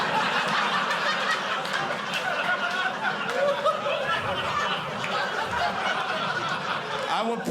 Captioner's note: audience laughing